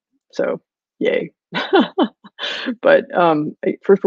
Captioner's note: laughing